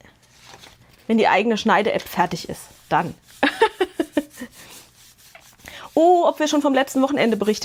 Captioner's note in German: Gelächter